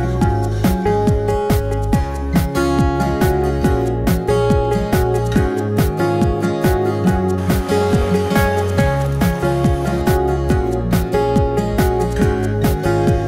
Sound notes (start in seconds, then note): 7.0 vacuum sucking; 10.5 upbeat music